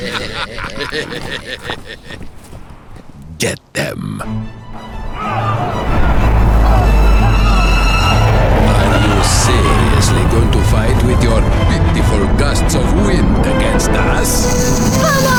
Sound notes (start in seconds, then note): 4.5 tense orchestral music; 5.0 soldiers yell